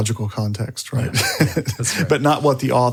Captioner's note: laughs